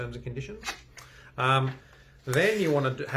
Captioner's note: paper rustling